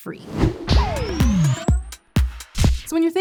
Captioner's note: transition whooshing; upbeat music